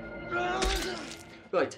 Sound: grunting; squelching; grunting

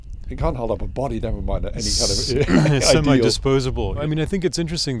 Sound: laughs

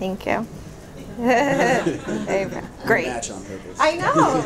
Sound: laughing

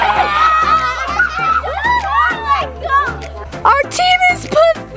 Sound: laughing; cheers

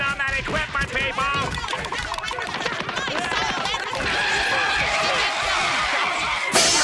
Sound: arguing

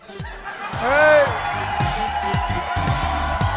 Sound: laughter and applause

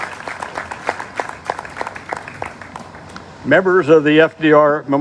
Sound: applause

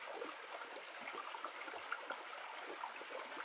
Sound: sounds of a stream

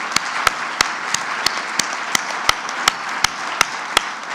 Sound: clapping

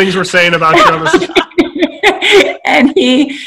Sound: everyone laughing

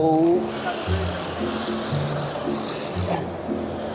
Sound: car motor

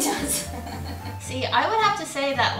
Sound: laughing

